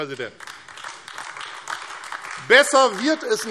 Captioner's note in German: Beifall AfD